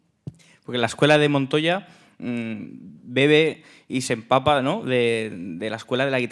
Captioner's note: speaking in Spanish